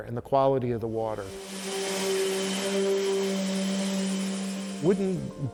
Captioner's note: sander whirrs loudly